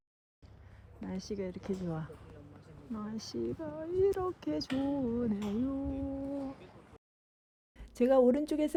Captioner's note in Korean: 콧노래